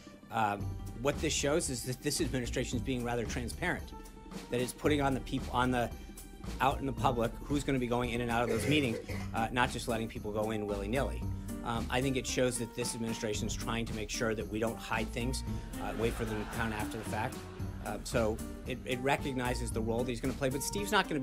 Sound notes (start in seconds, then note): 15.8 laugh track